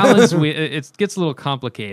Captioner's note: laughter